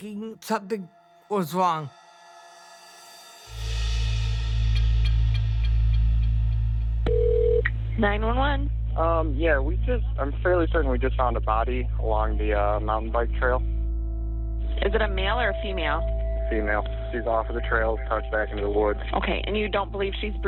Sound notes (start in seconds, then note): 4.5 ominous music; 6.6 phone ringing